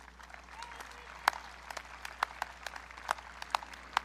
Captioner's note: audience clapping